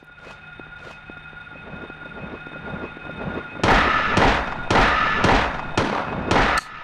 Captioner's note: guns firing